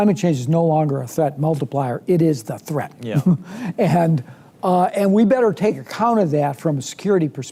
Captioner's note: laughs